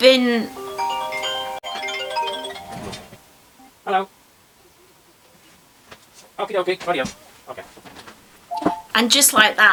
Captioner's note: sped up phone ringing and conversation